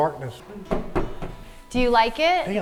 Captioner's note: hand knocking